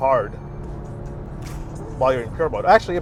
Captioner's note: engine revving